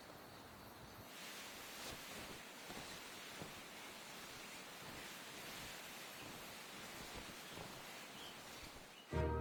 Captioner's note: birds chirping; wings flapping